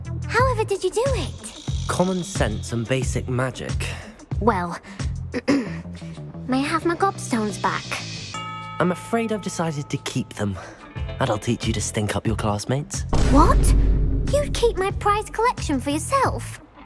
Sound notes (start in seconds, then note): 5.3 clears throat